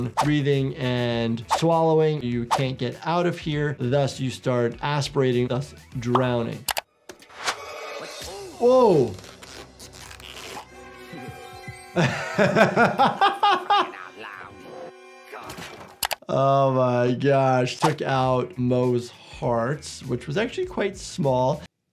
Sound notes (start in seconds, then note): 10.3 suspenseful music; 11.0 laughing